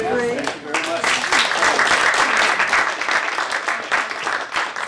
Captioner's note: applause